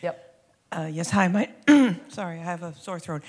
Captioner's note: clears throat